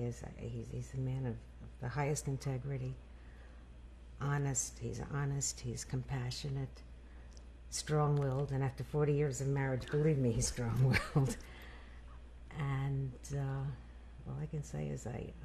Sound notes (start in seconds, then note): 10.8 laughs